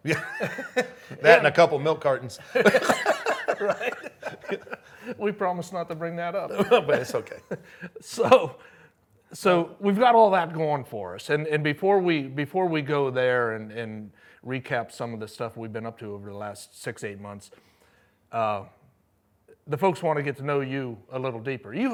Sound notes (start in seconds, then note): 0.7 laughs; 2.3 both laughing